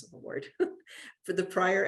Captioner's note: laughter